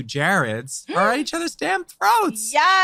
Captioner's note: laughing